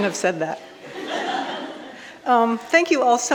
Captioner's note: audience laughing